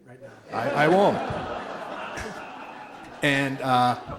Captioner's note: audience laughs